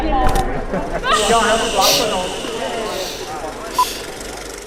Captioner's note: chatter; shushing